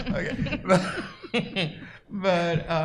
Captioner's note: laughs